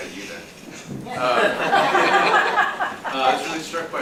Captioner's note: laughter